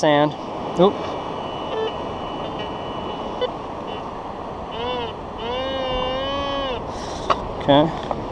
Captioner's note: detector beeping and buzzing